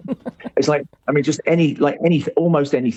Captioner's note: laughs